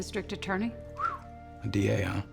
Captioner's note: whistles